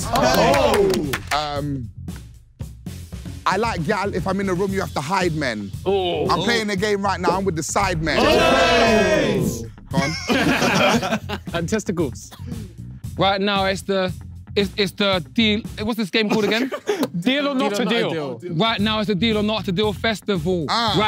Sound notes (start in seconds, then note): 0.0 clapping; 7.9 everyone cheering; 10.0 everyone laughing